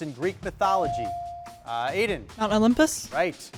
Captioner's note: bell chiming